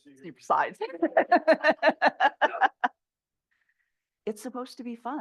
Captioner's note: chuckles